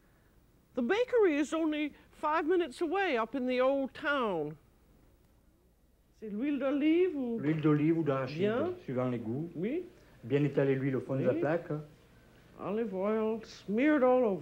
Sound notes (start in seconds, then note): 5.8 speaking french